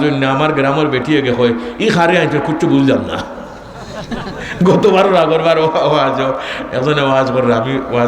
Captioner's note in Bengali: সশব্দ হাসি